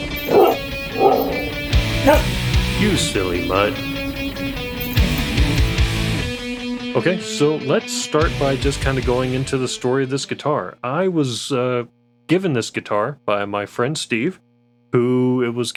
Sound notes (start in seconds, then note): 0.0 dog barks; 0.3 rock music plays; 5.1 dog whines